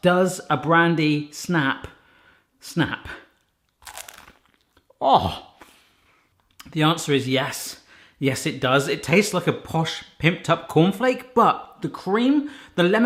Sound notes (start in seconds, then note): 3.4 crunch